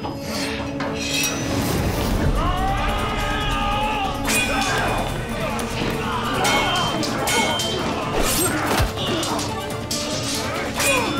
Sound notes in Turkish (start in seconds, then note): 2.3 Bağırma sesi; 4.2 Kılıç sesi; 6.2 Dövüş sesleri